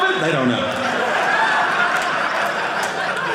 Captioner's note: audience laughing